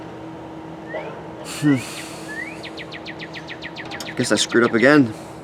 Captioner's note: sighs